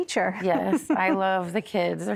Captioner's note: giggling